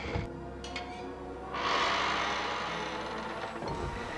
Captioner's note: door creaking